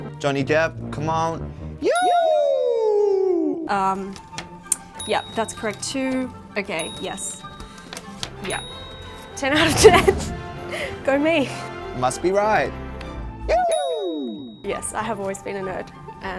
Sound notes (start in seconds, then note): 2.6 bell ringing; 7.4 bell ringing; 13.9 bell ringing